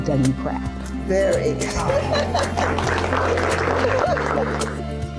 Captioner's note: laughs; organizers applauding